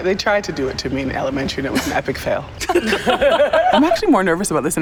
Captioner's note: laughter